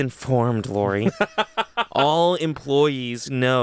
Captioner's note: laughs